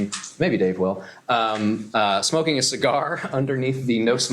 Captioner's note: laughs